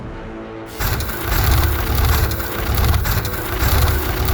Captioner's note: machine rumbling